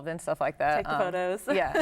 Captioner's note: laughs